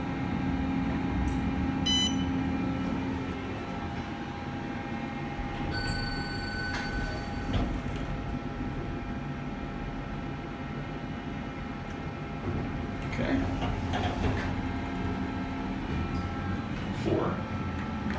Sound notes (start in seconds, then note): 5.6 elevator Chimes